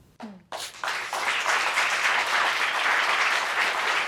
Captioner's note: audience applauding